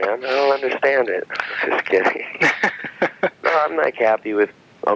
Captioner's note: laughing